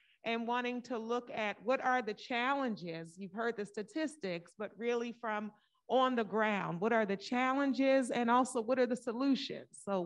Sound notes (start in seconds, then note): none